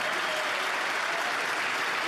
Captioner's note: applause